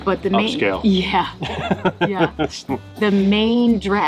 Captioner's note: laughing